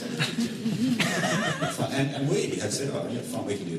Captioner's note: laughter